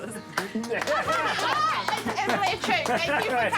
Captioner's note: laughter, applause